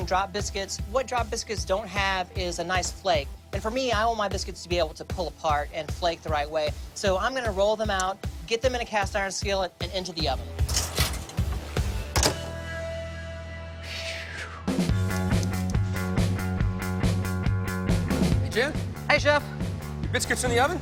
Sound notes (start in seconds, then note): 13.8 exhales deeply